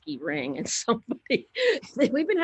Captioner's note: laughs